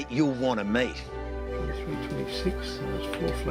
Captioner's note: murmurs